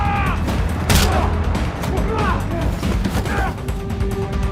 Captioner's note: bones cracking; both grunting